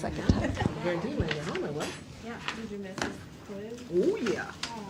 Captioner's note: class chatters